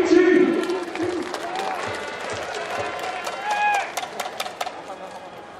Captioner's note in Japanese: 拍手